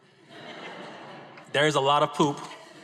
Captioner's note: audience laughs